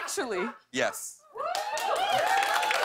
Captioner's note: cheers and applause